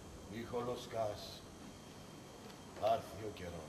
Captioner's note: none